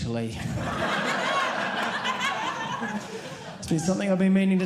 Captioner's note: audience laughing